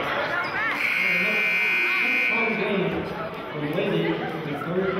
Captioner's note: buzzer sounding